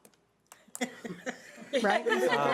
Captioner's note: laughing